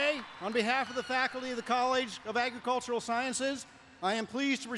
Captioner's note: applause